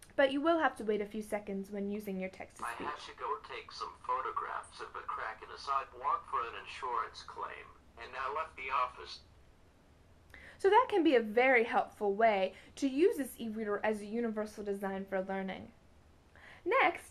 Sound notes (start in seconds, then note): 5.3 male voice begins reading; 7.4 book reading outloud